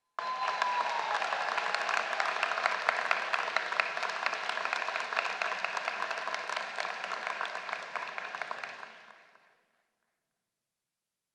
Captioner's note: applause